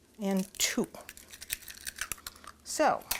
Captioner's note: eggs cracking